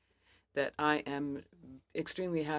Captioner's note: speaking french